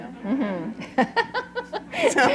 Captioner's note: laughter